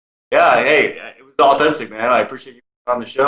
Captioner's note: speaking away from mic